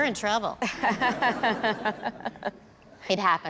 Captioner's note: laughter